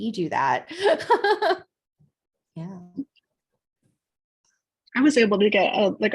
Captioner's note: laughter